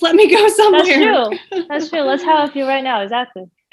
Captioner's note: laughing